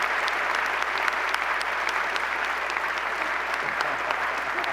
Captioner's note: applause